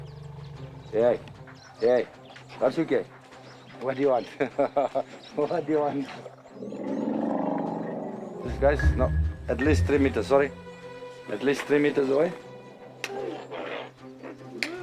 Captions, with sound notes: Hey, hey, hey... [SPEAKING NATIVE LANGUAGE] What do you want? What do you want? [RUMBLING] This guy's not... At least three meters away. At least three meters away.